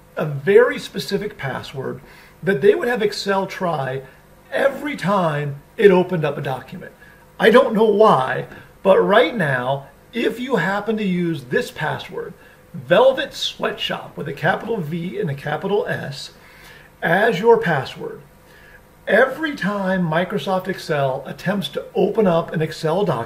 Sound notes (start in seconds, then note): none